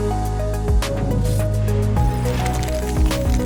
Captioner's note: object whooshing; words crackling